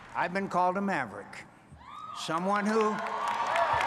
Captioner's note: cheering and applause